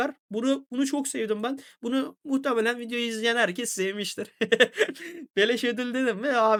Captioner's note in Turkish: kahkaha